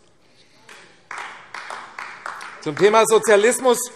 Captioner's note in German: Beifall AfD - Zurufe DIE LINKE